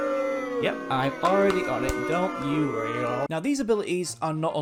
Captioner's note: crowd Boo Sound Effect